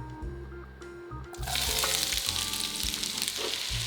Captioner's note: sizzling